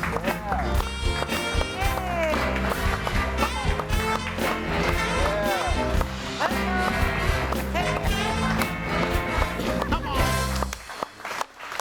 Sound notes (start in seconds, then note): 3.6 crowd; 8.5 lively music continues